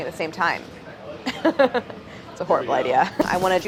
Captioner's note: laughs